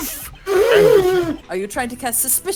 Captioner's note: snorting